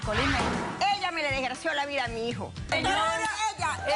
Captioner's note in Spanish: bofetada